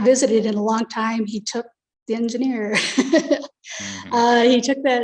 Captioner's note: chuckles